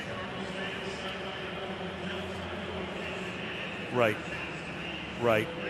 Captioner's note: pa announcement